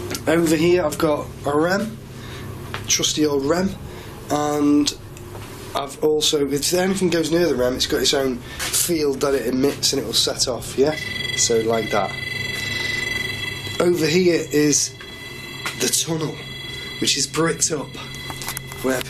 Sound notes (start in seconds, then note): 11.1 ringing